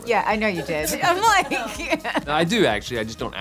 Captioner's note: laughs